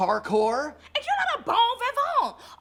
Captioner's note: speaking in a foreign language